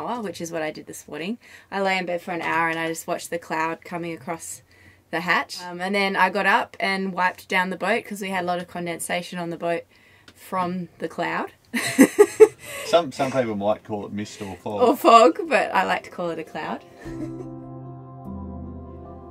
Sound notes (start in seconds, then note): 11.8 laughs